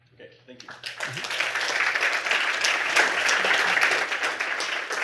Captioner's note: applause